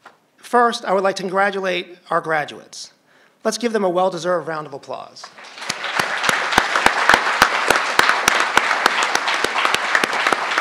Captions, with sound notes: First, I would like to congratulate our graduates. Let's give them a well-deserved round of applause. (crowd applauding)